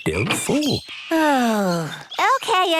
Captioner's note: sighs